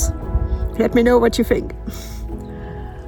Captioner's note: laughs